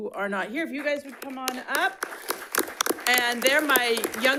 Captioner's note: audience applauds